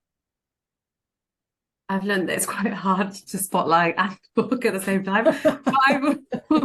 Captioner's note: laughing